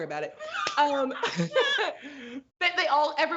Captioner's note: laughs